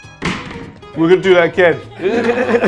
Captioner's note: laughs